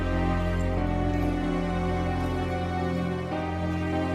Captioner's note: dramatic music; crickets